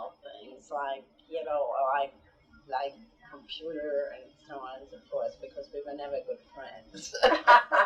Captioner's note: laughter